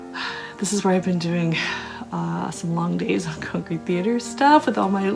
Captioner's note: sighs